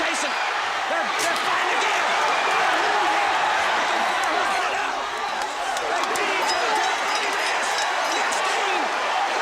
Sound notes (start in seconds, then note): 1.1 crowd chatter; 3.1 bell ringing